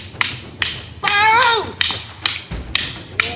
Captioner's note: man screaming; sticks clunking